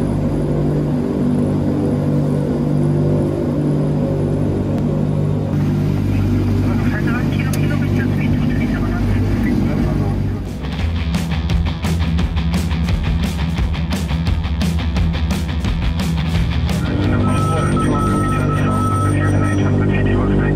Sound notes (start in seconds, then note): 7.0 chattering; 10.7 upbeat music; 17.0 plane engine roaring